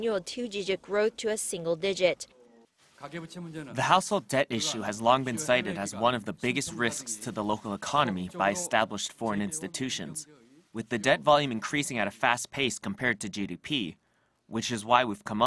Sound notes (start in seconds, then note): 2.6 Korean